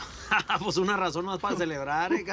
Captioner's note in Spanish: Risas